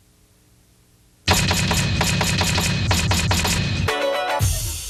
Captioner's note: letters banging; upbeat music